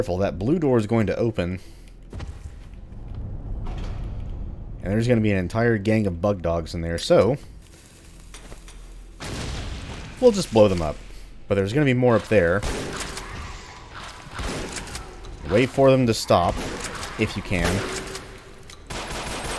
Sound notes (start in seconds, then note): 9.2 kaboom